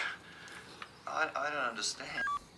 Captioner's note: Graham sighs